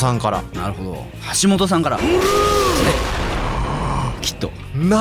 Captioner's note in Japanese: 叫び声